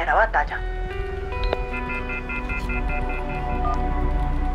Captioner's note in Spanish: Sonido de línea ocupada